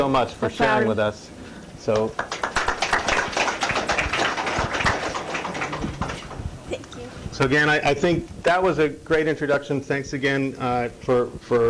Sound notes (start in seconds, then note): 1.9 applause